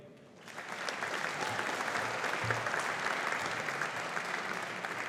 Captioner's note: audience applauding